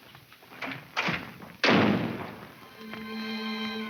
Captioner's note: door slams; dramatic music